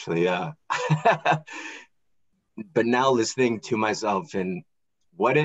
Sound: laughing

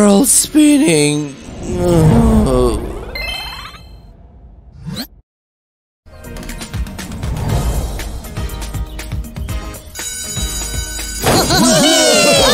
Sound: cheerful shouts

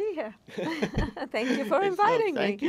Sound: laughing

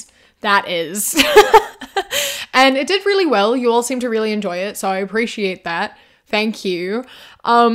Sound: laughs

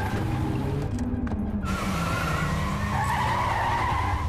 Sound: tires squeal

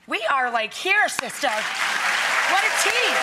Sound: applause

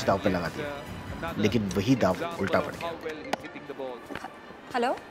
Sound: phone ringing

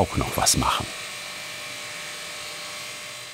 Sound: loud machine whirring

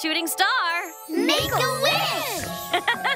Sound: mom chuckles

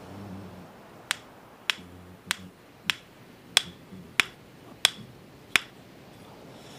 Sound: rocks bashing

